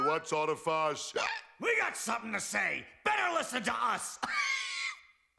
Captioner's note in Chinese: 咳!